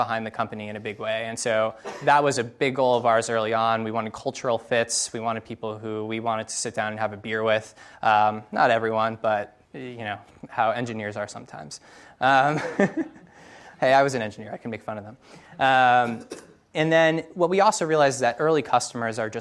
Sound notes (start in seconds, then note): 12.4 laughs